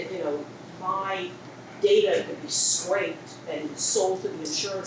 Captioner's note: woman speaks off microphone